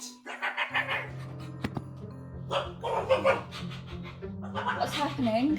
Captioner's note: Barry yelps and barks